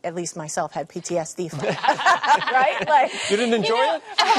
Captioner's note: laughter